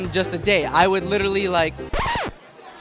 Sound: record scratching

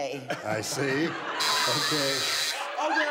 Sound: buzzer

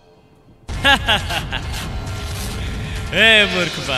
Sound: laughs maniacally

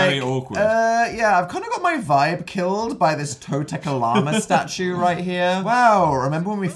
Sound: laughs

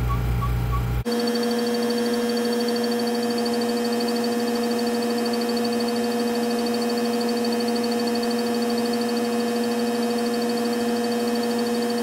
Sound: squeaking noise sped up

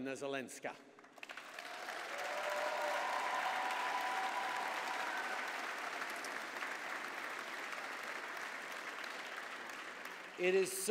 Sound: applause

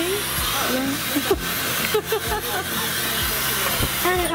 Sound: laughs

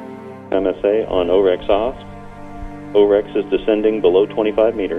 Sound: voice on radio

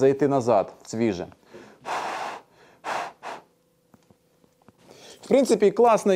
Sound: breathes

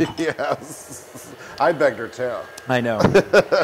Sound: laugh; laugh

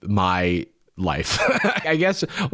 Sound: laughs

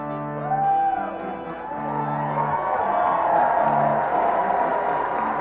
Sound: applause

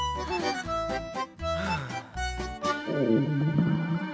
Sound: romantic music playing; both sigh

